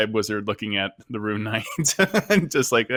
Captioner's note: laughs